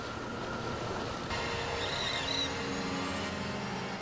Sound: eerie music; birds cawing

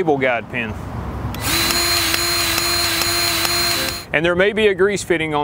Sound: grease gun revving

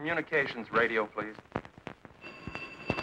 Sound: phone ringing

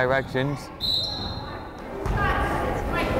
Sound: whistle blows; crowd chattering

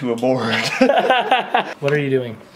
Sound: laughs

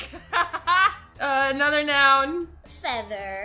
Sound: laughs

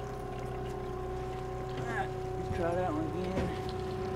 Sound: trolling motor humming

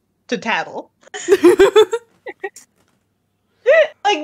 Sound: laughing

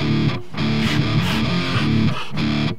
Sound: panting

